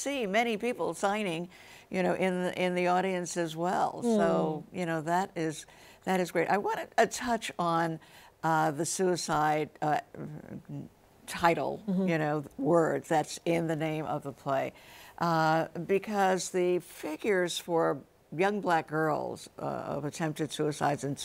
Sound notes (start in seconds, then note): none